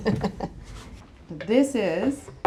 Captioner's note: laughing